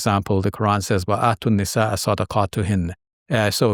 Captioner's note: speaking in foreign language